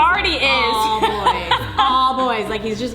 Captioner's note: laughing